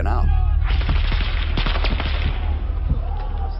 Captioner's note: automatic weapons chatter; troops shout